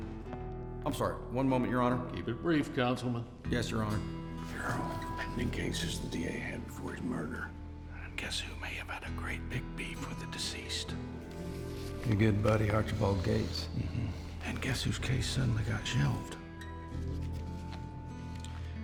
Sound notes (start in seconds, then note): 5.0 whispers